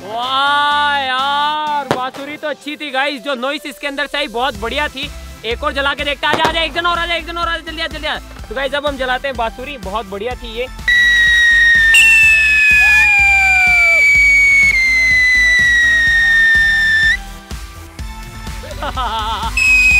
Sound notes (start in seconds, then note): 10.8 whistling sound; 18.6 laughing